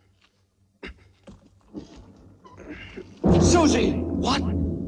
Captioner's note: groaning